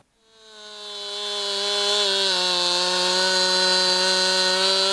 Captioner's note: chainsaw whirring